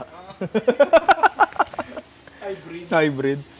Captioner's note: laughter